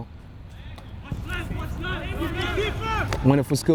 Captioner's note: players shouting